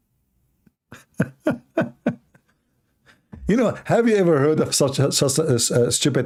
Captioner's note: Ketawa